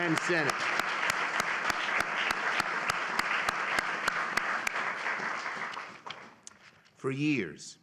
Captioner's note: applause